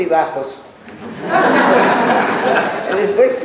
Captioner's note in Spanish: laughs